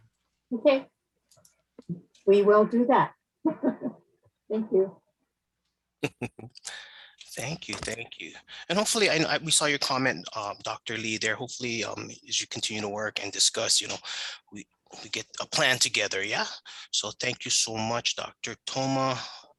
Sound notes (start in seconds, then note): 3.5 laughing; 6.0 laughing